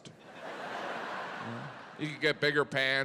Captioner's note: audience laughing